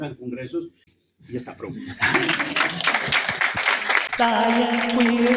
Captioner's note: applause